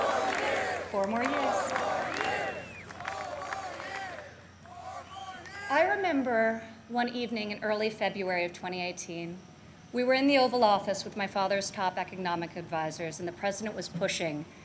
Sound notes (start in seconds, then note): 0.8 chanting four more years